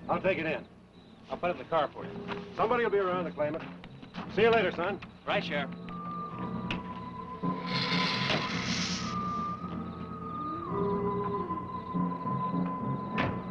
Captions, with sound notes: I'll take it in. - I'll put it in the car for you. - Somebody will be around to claim it. See you later, son. - Bye, Sheriff. (hissing)